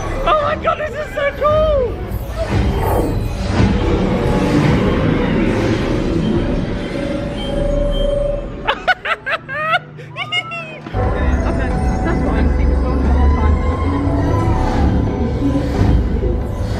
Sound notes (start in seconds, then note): 8.6 laughing